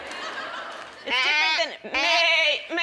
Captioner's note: goat noises